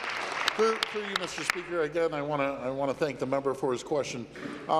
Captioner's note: applause